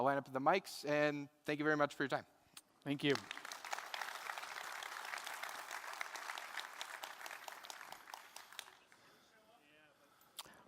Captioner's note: applause